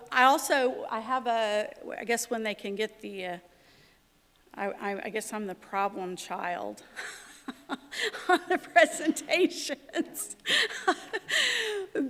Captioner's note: laughter